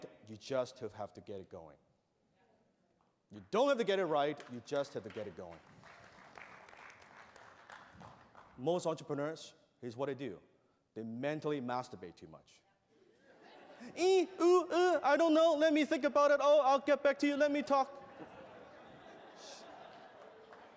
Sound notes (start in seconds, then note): 6.7 applause; 13.0 laughter; 17.9 laughter